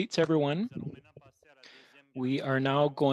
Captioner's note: speaking French